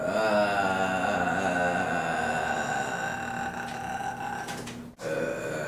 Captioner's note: moan